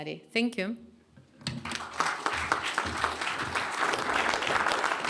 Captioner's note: clapping